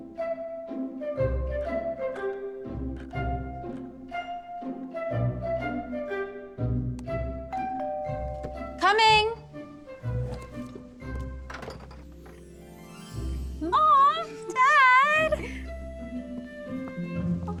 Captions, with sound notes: [doorbell] Coming! [door opens] Mom! Dad!